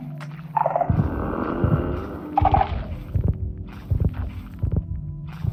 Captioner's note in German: knurren